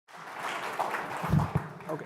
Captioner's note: applause